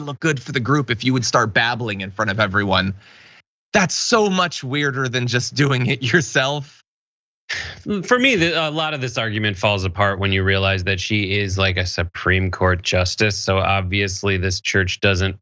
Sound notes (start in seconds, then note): 7.6 laugh